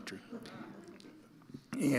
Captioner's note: audience laughing